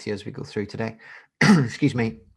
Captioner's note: coughs